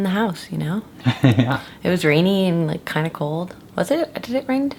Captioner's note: laughs